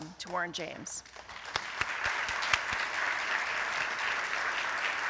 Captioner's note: applause